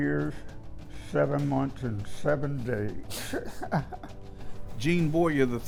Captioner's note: laughing